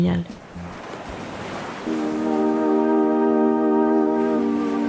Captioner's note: sounds of the sea